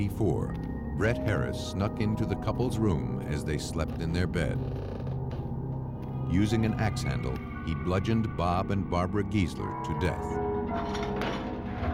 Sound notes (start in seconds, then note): 3.6 floorboards creaking